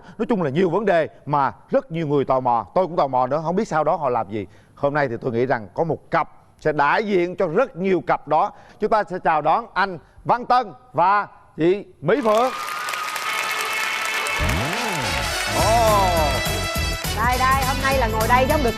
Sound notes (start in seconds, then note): 12.2 applause